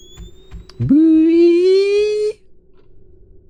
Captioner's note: imitating door creak